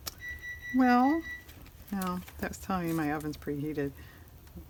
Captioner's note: electronic beeping